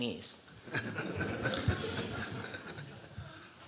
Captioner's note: laughter